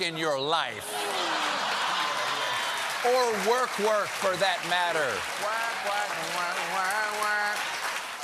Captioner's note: cheers and applause